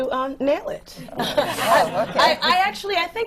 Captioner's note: laughter